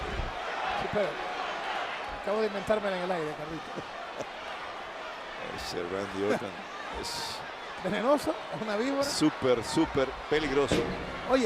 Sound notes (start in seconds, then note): 3.5 laugh